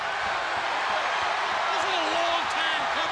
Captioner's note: crowd cheering